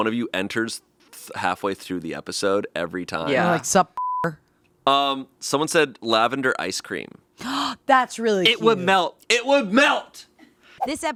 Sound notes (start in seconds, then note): 4.9 beeping; 7.6 gasps